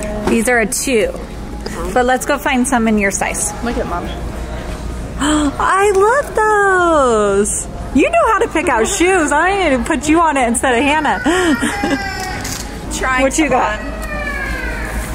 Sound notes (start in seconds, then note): 12.4 laughs